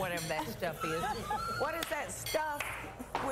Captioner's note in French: laughter